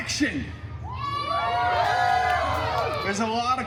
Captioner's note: guests cheering